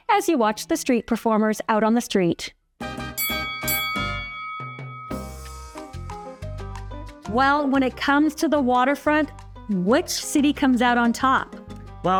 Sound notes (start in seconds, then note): 2.8 lighthearted music; 3.2 bell dings